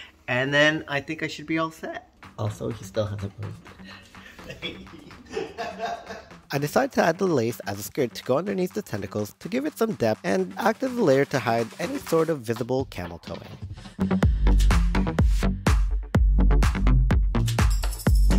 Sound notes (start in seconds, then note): 4.1 laughing off camera; 14.1 upbeat dance music